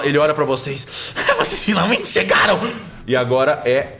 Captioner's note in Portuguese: Risada